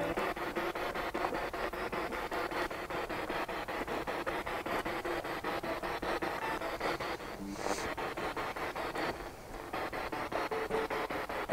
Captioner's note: noise of the spiritbox in the background